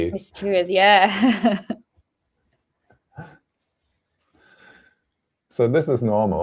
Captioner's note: laughter